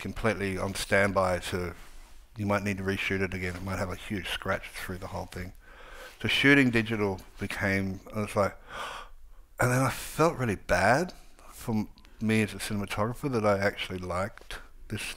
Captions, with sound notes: on standby to, you might need to re-shoot it again, it might have a huge scratch through the whole thing. So shooting digital became, it was like, (sighs) and then I felt really bad for me as a cinematographer that I actually liked this stuff